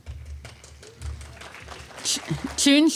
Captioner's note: applause